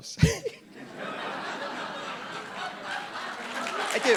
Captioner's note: RuPaul laughs; audience applauding